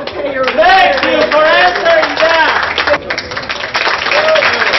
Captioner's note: hoots, applause